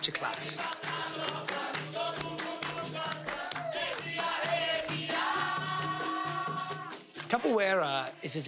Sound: students chanting

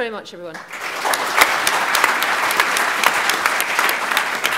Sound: applause

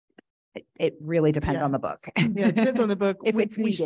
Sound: laughing

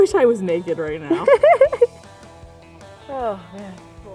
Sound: laughing

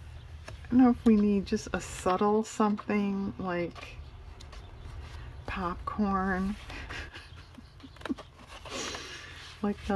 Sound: laughs

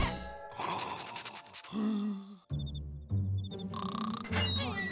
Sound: snoring; snoring, creaking

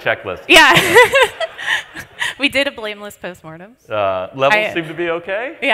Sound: laughs

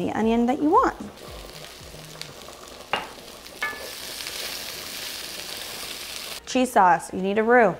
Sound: pan sizzles

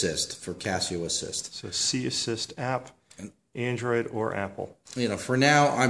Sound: voiceover

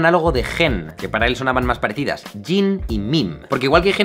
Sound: in English

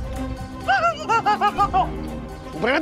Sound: laughing

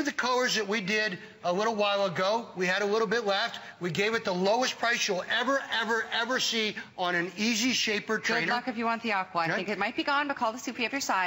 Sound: laughter

